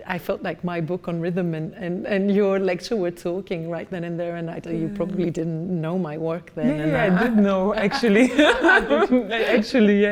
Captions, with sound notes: I felt like my book on rhythm and your lecture were talking right then and there. And you probably didn't know my work then. - Yeah, I did know actually. (both laughing) Actually.